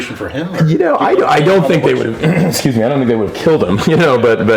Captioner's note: laughs